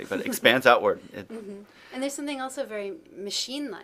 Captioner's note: laughs